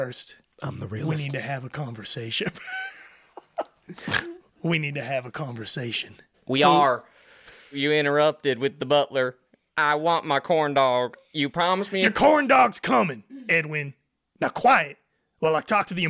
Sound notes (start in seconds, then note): 4.5 snort giggles